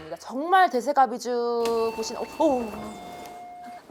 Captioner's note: ding-dong